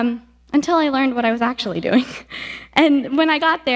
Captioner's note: giggles